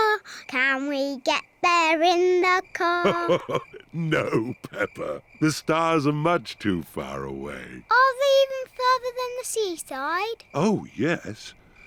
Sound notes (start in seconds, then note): 2.8 chuckles